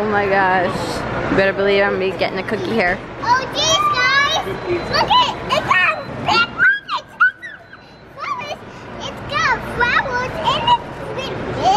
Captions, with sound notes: Oh, my gosh. You better believe I'm gonna be gettin' a cookie here. - Oh, jeez, guys. Lookit. It's a big one. (shrieks) Mom, it's got flowers and it's big.